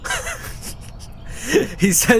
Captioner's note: snickering